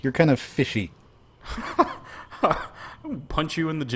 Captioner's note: laughs